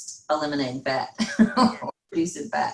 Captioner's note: laughs; faintly speaking